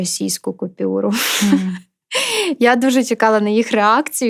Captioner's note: laughter